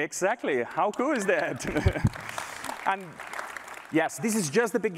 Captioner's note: applause